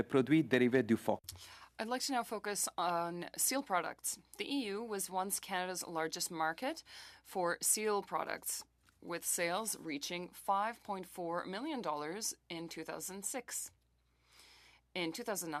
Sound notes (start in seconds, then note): 2.6 speaking French